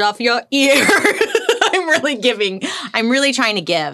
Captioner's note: laughs